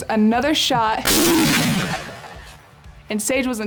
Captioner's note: gunshot